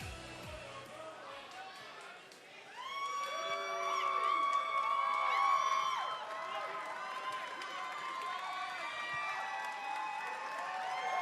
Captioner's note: crowd cheering